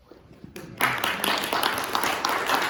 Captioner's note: applause